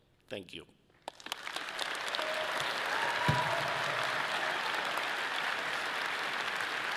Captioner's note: audience applauding and cheering